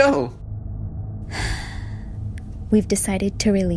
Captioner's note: sigh